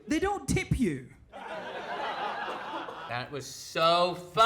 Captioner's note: people laughing